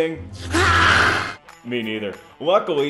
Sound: man roaring

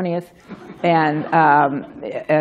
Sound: laughter

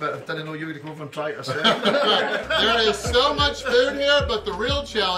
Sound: haha

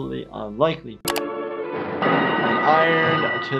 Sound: mouse clicking

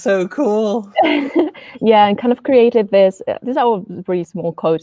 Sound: chuckles

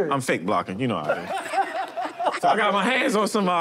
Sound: laughter

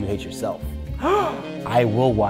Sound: gasping

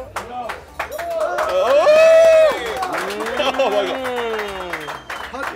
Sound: clapping and cheering

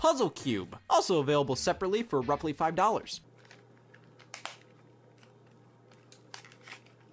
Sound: cube clicking and cracking

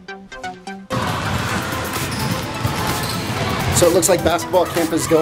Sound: light electronic music; basketballs bouncing

